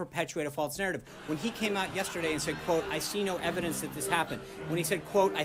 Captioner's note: raucous laugh track